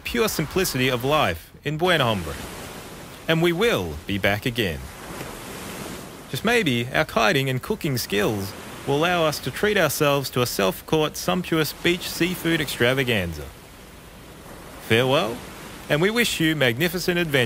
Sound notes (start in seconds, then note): none